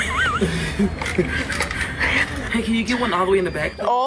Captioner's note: pair laughing